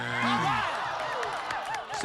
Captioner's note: cheers